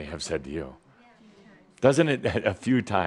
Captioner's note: laughter